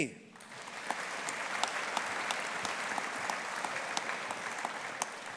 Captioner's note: audience applauding